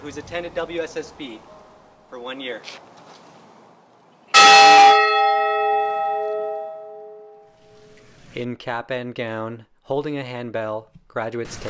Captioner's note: loud bell